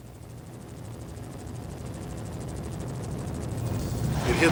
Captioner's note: helicopter